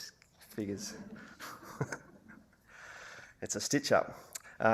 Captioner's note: audience laughter